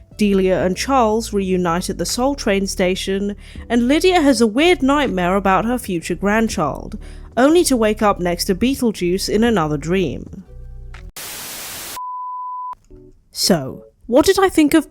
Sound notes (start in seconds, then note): 11.1 static